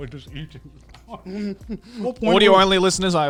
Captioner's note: laughing